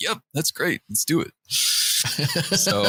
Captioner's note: laughter